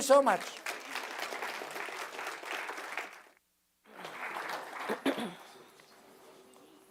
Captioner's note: applause; cough